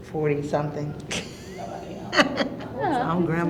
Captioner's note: chuckling